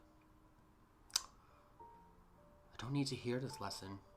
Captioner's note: clicks Tongue